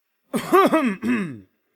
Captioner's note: cough, cough